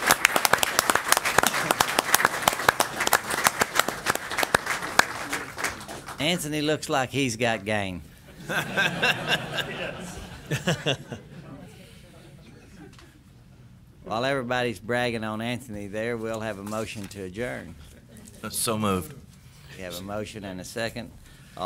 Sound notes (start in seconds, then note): 0.0 applause; 8.3 laughter